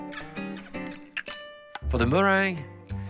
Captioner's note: eggshell cracking